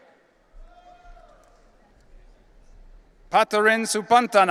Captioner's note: audience cheering